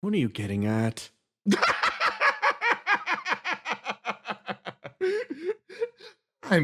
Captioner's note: laugh